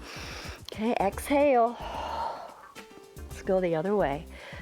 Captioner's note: exhales